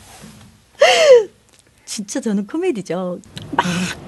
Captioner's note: laughs